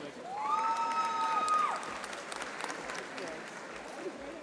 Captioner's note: audience applauding